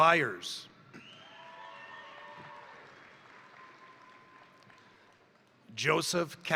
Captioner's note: crowd cheering; crowd applauding